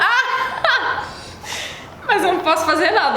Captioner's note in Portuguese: risos